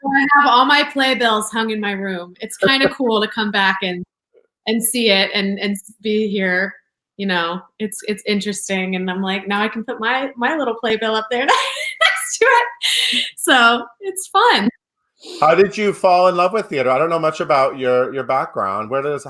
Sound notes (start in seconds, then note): 2.6 laughs; 11.5 laughs